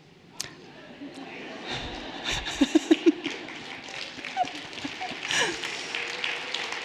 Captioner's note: everyone laughing lightly; everyone applauding and cheering